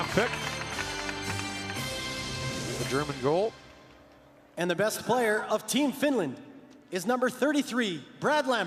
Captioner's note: applause